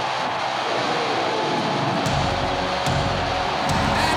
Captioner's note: audience cheers